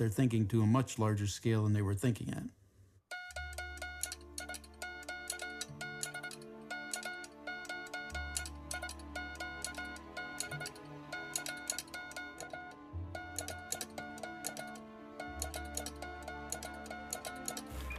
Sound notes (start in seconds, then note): 3.1 beeping